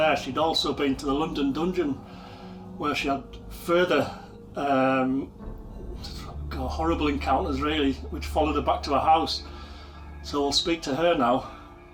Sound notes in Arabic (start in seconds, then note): 6.2 يسخر